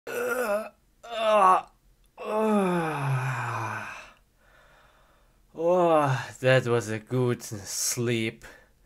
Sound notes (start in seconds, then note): 0.0 groaning; 5.6 yawn